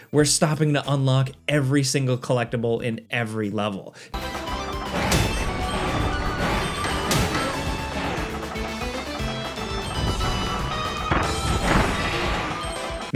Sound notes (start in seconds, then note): 4.1 cheerful music; 4.8 girders thudding